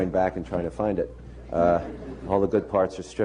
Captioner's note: laughter